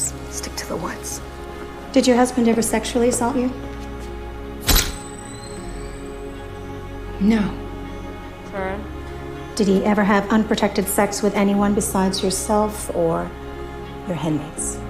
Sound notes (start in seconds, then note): 0.6 whispering; 4.7 camera flash goes off